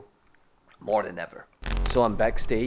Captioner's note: television static